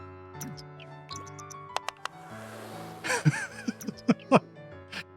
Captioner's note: laughs